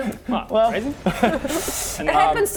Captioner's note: limp laughter